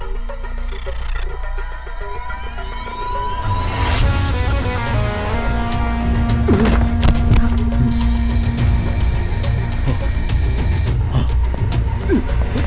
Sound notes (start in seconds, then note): 6.2 thuds; 7.8 alarm ringing